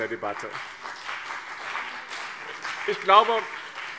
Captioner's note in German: Beifall BÜNDNIS 90/DIE GRÜNEN und CDU